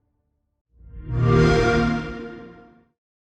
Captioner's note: xbox sound